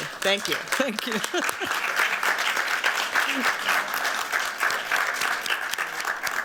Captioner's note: applause